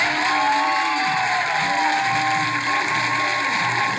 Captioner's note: cheering